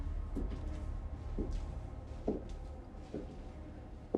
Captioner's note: footsteps tapping